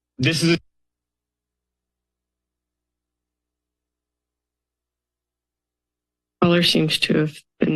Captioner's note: silence